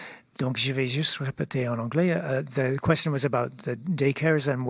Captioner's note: speaking French